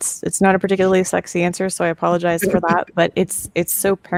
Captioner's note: laughs